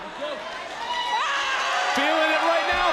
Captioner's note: Thea screams